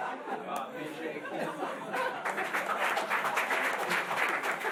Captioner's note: laughing; applause